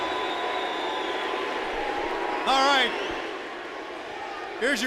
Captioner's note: crowd cheering